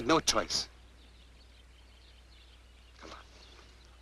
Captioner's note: birds chirping